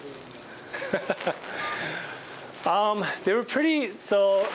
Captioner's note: laughing